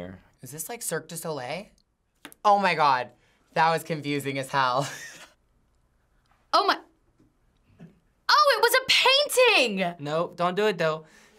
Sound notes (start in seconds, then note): 5.0 chuckles